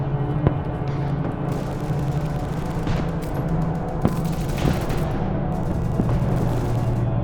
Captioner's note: ominous music; guns firing